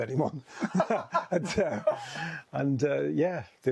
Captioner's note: both laughing